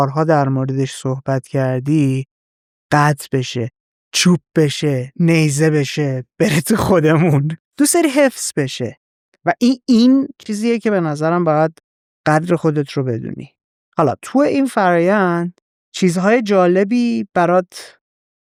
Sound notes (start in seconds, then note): 7.8 laughs